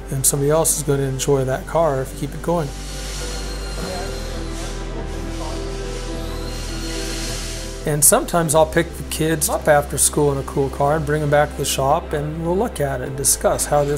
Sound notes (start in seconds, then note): 2.6 power tools whir